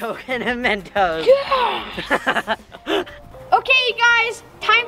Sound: laughing

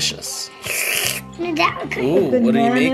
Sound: dad slurping

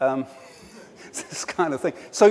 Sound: laughs

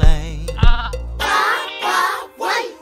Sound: sheep bleats

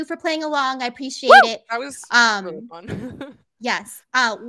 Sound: cheers; chuckles

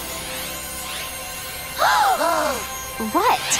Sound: gasping

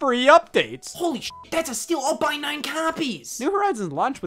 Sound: beep

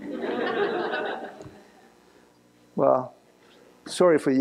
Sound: laughter

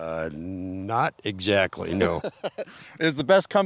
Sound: laughing

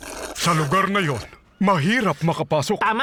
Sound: slurps

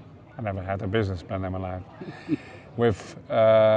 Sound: chuckles

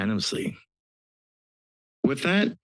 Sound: pause

